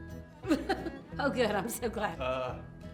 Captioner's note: laughs